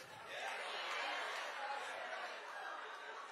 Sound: audience exclaiming

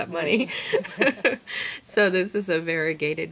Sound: laughs

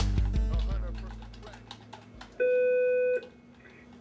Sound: phone beeps

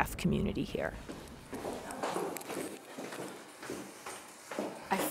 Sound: heels clopping

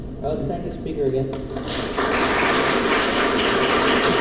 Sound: applause

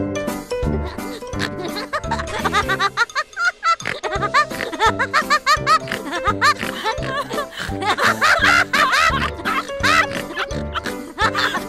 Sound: laughing

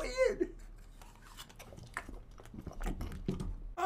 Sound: slorp, munch, crunch

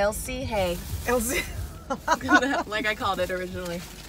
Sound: laughs

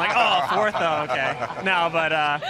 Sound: laughter

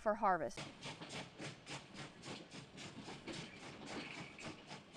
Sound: engine chugging

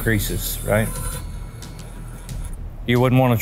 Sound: gadget whirring

